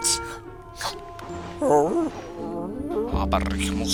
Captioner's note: sleepy dog noises